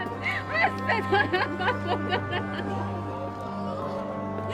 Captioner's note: sobbing